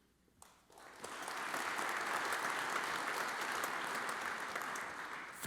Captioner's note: audience applauds